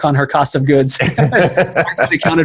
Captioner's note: laughing